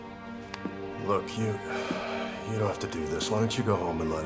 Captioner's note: sighs